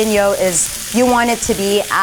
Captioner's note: sizzling